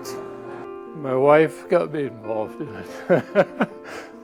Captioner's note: laughs